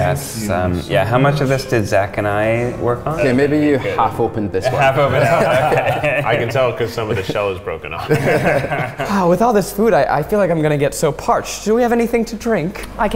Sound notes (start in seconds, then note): 6.2 laughter